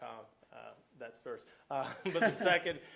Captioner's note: laughing